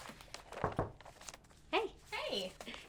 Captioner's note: knocking on wall